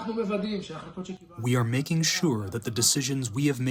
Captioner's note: through translator